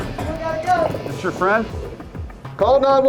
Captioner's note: voiceover